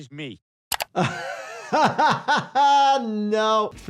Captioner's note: laughing